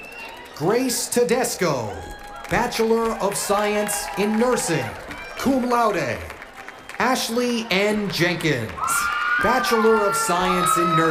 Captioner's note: cheers and applause